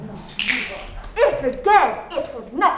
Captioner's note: all snapping